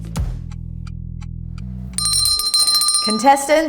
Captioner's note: bell rings